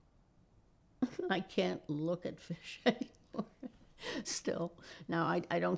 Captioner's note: laughing